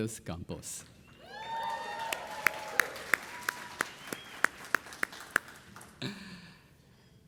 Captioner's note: audience cheering; audience applauding